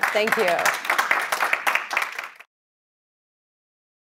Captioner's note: applause